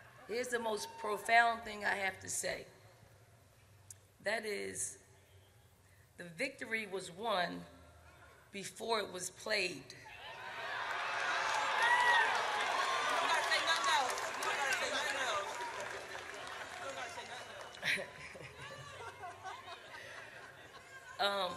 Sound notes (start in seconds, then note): 10.3 audience cheers; 17.8 Coach Staley chuckles